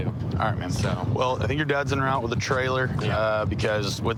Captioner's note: none